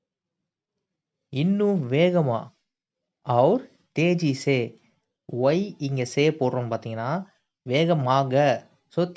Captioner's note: Hindi